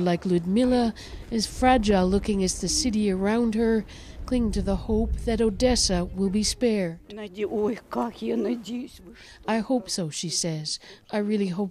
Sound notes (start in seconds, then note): 10.5 speaking Foreign Language